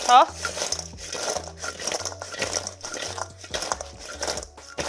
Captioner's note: potatoes clanking